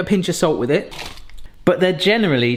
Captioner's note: salt packet rustles